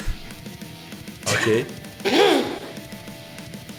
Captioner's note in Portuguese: Risos